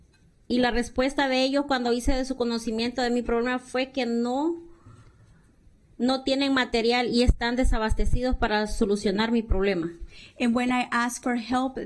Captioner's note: speaking spanish